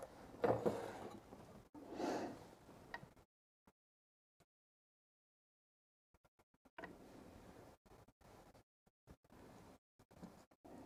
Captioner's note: silence